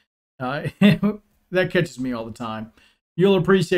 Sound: chuckling

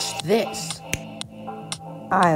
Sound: snap

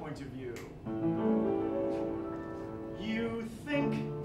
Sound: snap

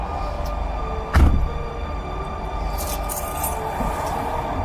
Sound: car door slamming

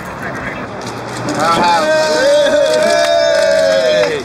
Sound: cheers

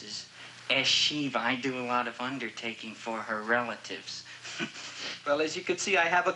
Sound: chuckles

